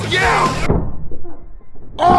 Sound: knock

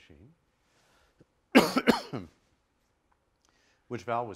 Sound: coughs

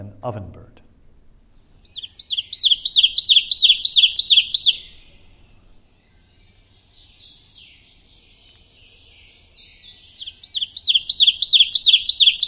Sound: ovenbird singing

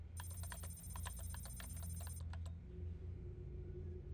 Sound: keyboard clicking

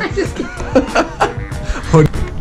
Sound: laughter

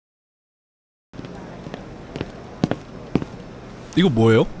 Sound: footsteps

